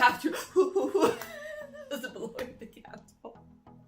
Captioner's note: laughs